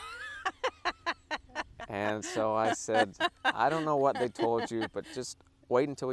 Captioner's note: laughing